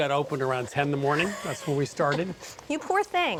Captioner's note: laughs